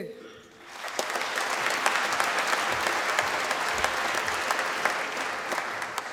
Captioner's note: applause